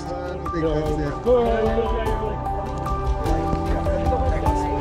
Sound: crowd chattering

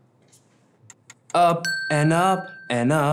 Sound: ticking

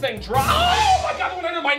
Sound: screams

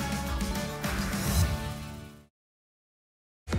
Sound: whoosh

